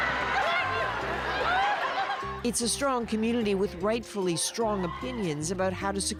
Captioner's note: cheering